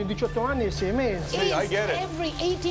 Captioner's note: speaking Italian